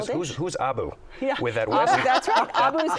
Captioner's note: laughter